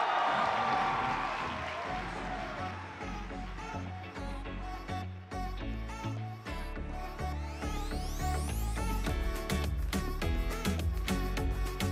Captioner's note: cheering and Applause